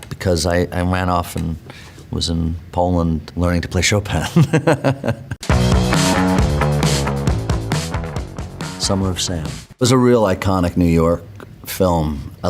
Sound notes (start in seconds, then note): 4.3 laughs; 5.4 upbeat music